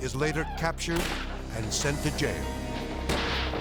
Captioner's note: gun firing